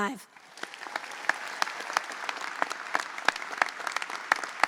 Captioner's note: audience applauds